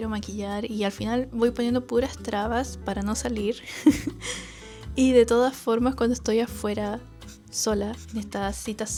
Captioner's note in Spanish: risas